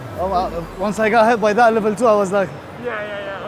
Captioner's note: laughs